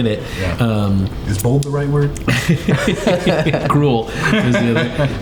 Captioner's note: everyone laughing